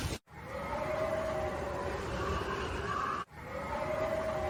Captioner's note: wind Howling